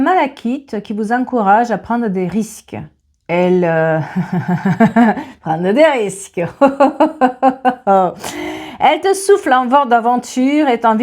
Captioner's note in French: rires